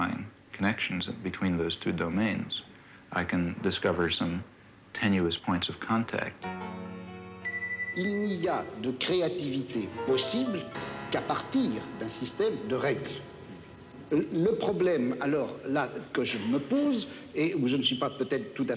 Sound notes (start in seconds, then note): 7.9 speaking in foreign language